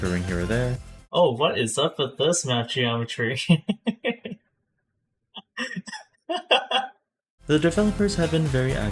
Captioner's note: laughs